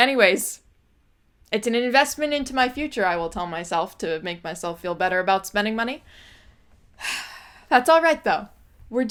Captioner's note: sighs